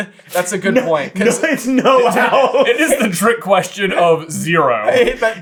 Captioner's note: giggling; laughing